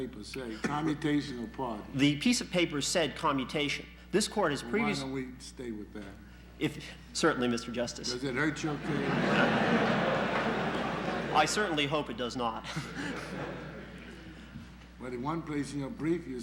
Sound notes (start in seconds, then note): 10.0 laughter in the courtroom